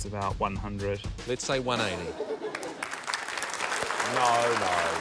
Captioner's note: laughter; laughter, applause